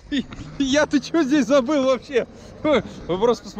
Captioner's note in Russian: смеется